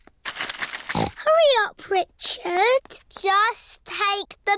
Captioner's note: snorts